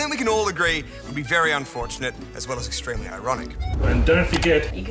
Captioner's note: none